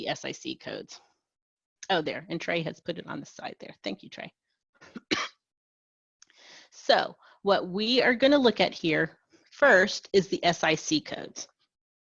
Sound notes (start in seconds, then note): 4.9 cough